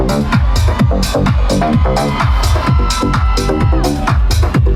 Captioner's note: crowd cheering